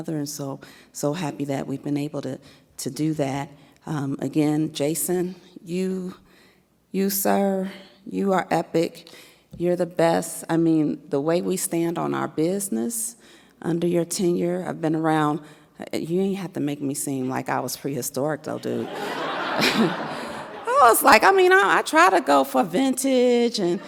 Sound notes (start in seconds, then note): 18.8 audience laughs; 18.9 chuckles